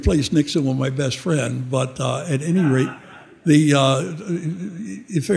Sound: audience laughing

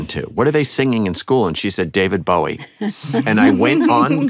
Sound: laughter

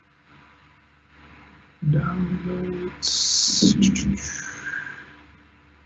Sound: whistling

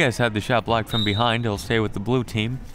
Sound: whistle

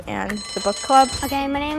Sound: bell rings

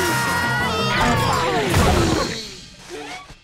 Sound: screaming

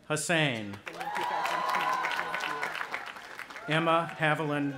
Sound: audience applauding and cheering

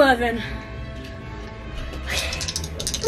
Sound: dice clicking

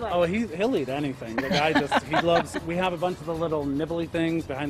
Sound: laughter

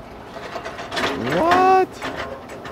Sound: metal door creaks

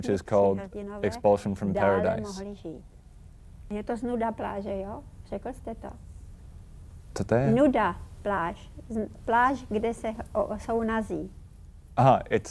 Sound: Vera in Czech

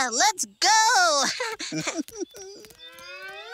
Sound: both chuckling

